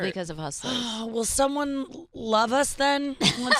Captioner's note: sighs; laughing